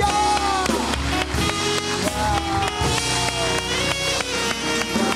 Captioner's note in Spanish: Aplauden